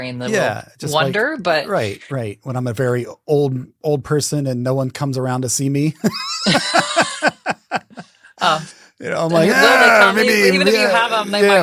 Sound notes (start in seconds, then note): 6.0 both laughing